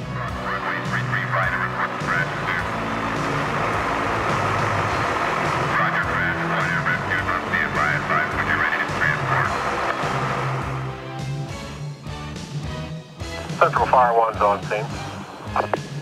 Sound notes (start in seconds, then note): 2.9 truck engine revving; 9.7 upbeat music